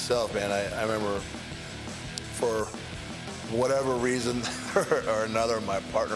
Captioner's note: laugh